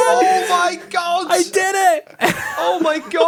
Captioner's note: laughs